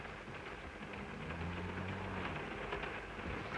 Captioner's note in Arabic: صوت خشخشة القطار; صوت خوار; صوت خشخشة القطار